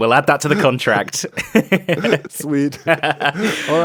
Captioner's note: laughs